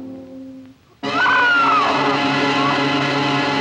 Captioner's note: scream